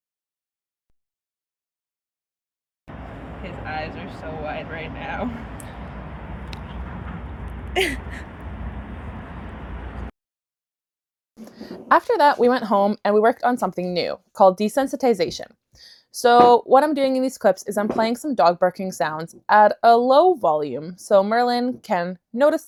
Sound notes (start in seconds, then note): 7.6 chuckles